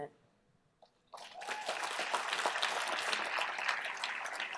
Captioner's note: applause